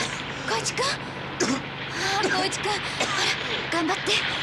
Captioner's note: Kōichi coughing